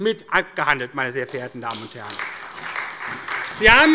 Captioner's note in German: Beifall bei der SPD